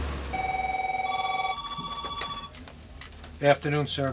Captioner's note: phone ringing